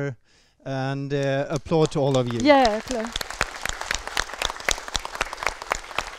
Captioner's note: applause